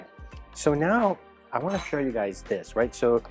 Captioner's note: spoon clattering